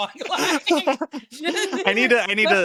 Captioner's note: both laughing